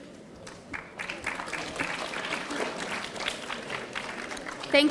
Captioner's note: audience applauding